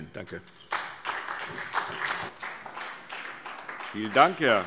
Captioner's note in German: Beifall SPD